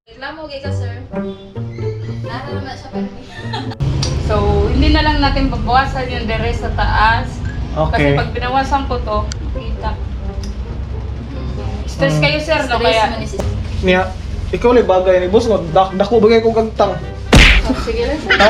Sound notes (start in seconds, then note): 3.1 laughter